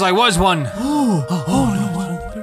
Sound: gasps

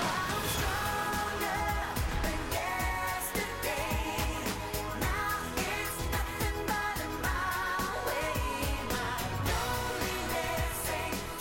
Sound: cheers and applause

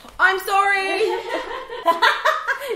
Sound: laughs

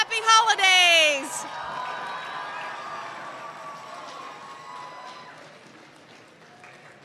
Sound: cheers

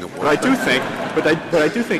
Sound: laughter

